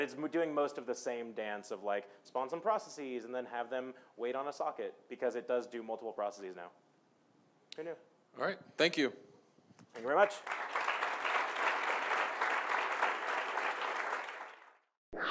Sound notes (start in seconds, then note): 10.0 audience applauding